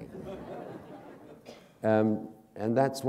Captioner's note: laughter